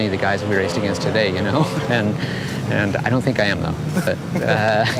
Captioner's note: laughs